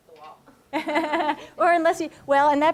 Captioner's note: laughter